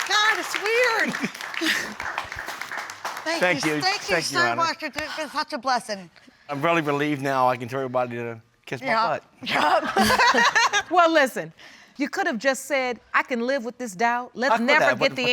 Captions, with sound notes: Oh, my God, it's weird. Thank you, Your Honor. Thank you so much. It's such a blessing. I'm really relieved now, I can tell everybody to kiss my butt. Yup. Yup. (LAUGHING) Well, listen. You could've just said I can live with this doubt.